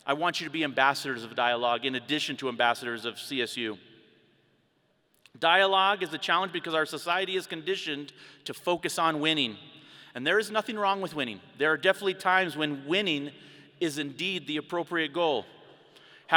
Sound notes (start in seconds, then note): none